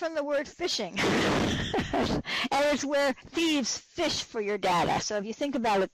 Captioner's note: laughs